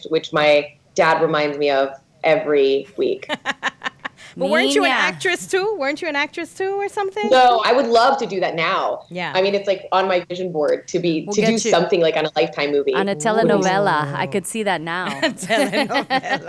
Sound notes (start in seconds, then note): 3.1 laughing; 3.4 speaks Spanish; 12.9 laughing